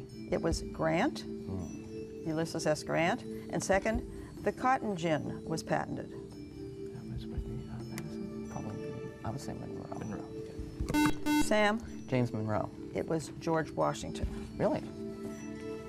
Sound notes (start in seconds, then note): 6.8 whispering; 10.9 buzzer